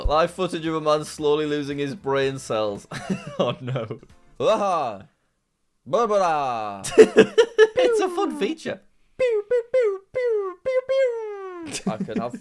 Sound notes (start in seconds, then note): 3.0 laughs